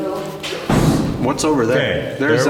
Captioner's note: thud